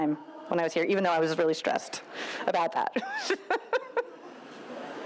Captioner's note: laughs